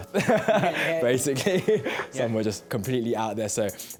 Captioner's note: laughs